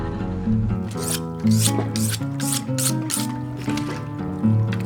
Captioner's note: scraping metal